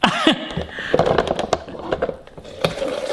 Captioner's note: laughing